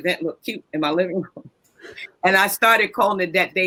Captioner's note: chuckles